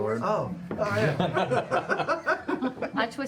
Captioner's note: laughter